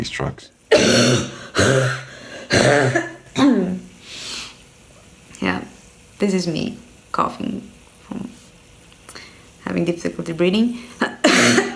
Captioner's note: coughs